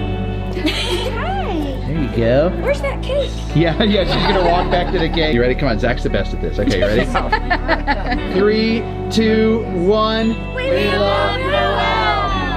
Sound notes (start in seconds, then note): 0.5 women laugh and encourage Noel; 6.6 all laugh